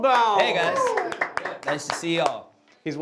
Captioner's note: applauding